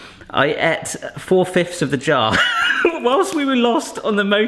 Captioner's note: laughing